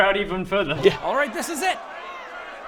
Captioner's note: angry mob noises